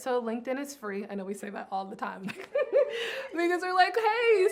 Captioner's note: chuckling